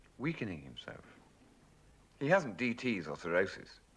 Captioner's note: none